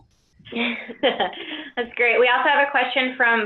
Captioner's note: laughs